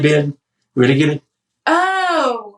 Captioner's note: auction chant